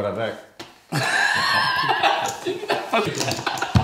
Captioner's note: laughs